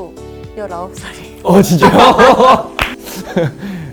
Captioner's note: laughs